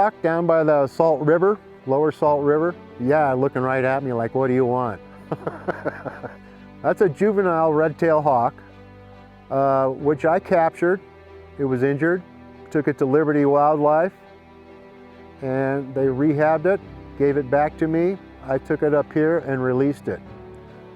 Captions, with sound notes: DOWN BY THE SALT RIVER, LOWER SALT RIVER. YEAH, LOOKING RIGHT AT ME, LIKE, "WHAT DO YOU WANT?" [ LAUGHTER ] THAT'S A JUVENILE RED-TAILED HAWK, WHICH I CAPTURED. IT WAS INJURED. TOOK IT TO LIBERTY WILDLIFE. AND THEY REHABBED IT, GAVE IT BACK TO ME. I TOOK IT UP HERE AND RELEASED IT.